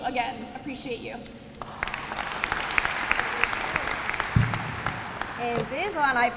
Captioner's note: applause